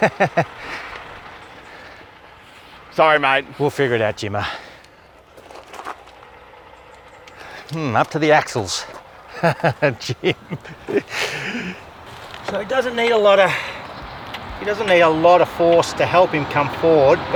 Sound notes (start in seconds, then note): 8.5 laughing